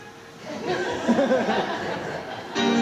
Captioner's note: laughter